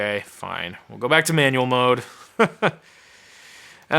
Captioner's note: laughing